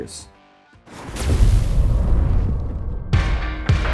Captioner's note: BK42 Logo's explosion